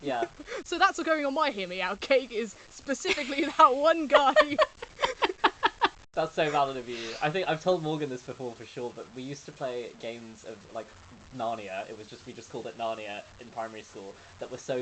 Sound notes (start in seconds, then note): 4.1 laughs